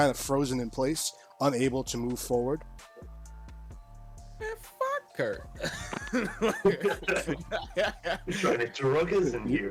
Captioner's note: laughs